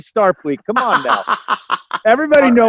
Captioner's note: laughs